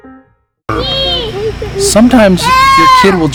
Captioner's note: jazzy piano music; kids yelling